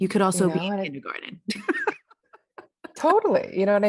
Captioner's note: laughs